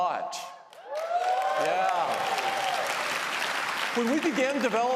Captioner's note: applause